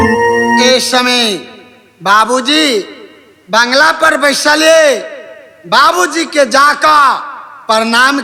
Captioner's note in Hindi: घंटी की आवाज़